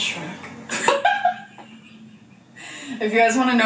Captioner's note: laughing